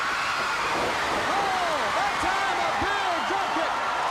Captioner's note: crowd cheering